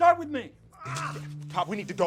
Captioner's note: Ray groaning